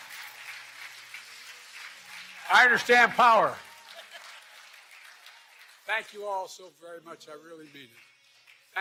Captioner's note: applause